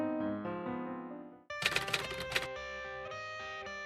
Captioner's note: typewriter sound